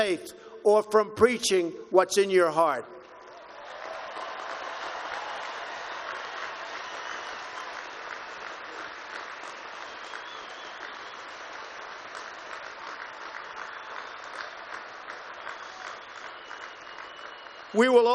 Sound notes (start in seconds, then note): 3.1 applause